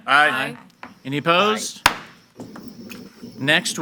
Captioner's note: gavel bangs